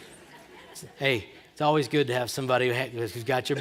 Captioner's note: laughter